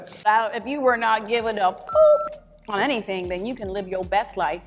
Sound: beep

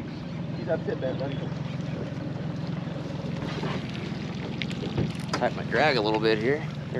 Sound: boat engine idling

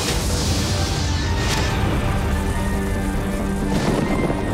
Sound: loud electrical humming

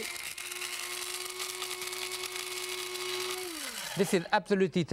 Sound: coffee grinder pulverizing

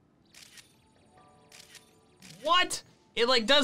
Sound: photo snapping

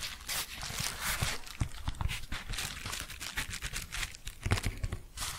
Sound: shuffling and crinkling; tapping and shuffling

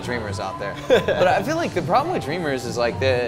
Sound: laughs

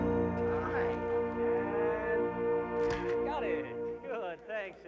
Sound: camera snaps

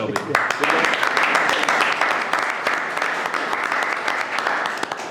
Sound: audience applauding

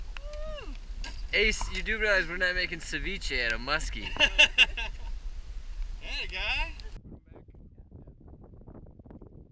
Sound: laughter

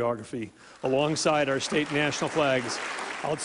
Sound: applause

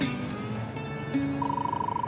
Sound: radar gun chirping

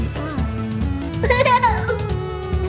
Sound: laughter

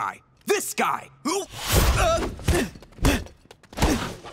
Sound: grunting

